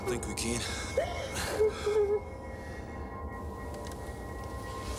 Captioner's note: Jodie sobbing